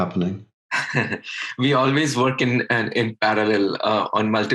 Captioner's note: laughs